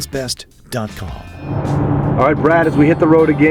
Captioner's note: voiceover